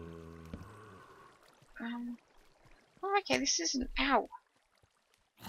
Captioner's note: zombie moans